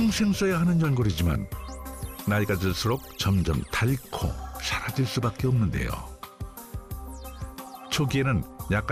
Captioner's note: voiceover